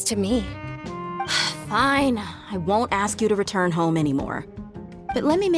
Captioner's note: sigh